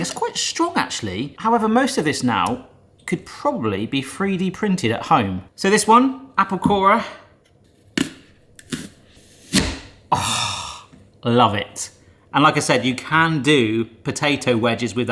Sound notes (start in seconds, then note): 9.5 apple corer thunks